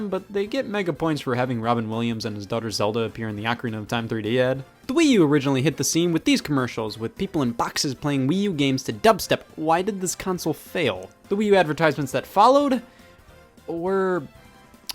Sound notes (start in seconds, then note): none